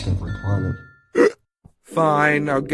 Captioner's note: gulp